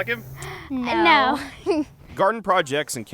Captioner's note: in Unison